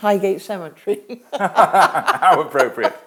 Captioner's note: both laugh